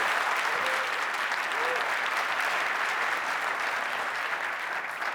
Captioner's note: cheering, applause